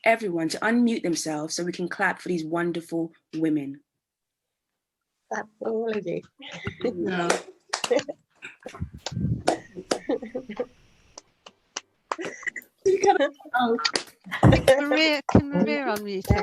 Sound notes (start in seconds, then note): 6.6 clapping and happy voices